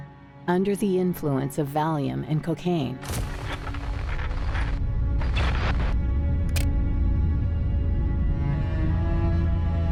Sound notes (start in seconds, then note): 3.1 camera clicks; 3.1 static buzzes